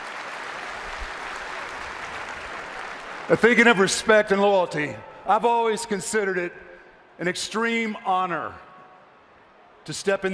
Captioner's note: applause